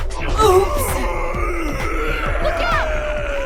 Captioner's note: Mon-Gor shouts